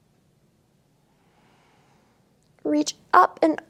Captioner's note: inhales